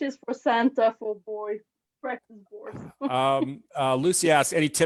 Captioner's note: chuckles